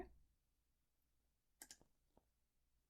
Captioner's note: click